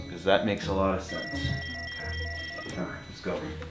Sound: electronic beeping

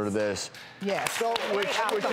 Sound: audience applauding

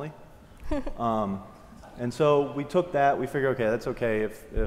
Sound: laugh

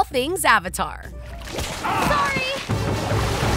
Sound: screaming

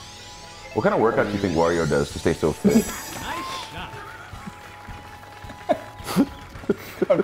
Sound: laugh

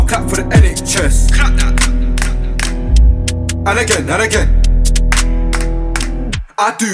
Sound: clap x3

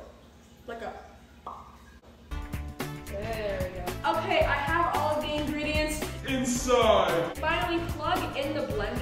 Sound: pop

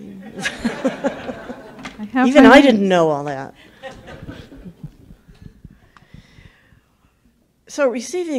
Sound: laughing

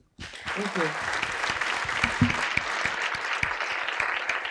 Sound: applause

